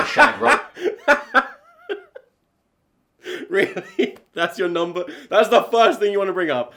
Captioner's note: laughing